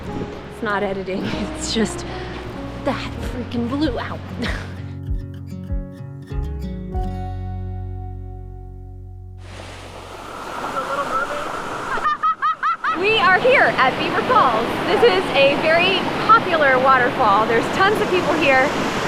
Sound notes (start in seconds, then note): 4.4 laughs; 11.8 laughs